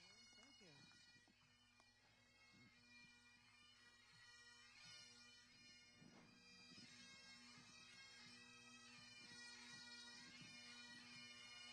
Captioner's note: applause